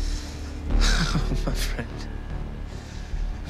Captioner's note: laughs